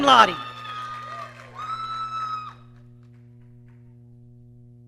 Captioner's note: audience cheering